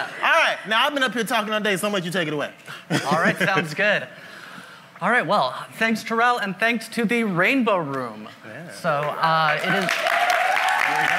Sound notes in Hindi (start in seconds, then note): 2.8 मुंह दबाकर हंसना; 9.5 वाहवाही